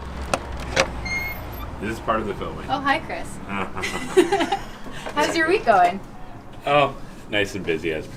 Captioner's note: laughs